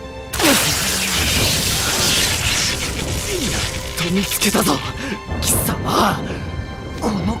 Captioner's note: pant, pant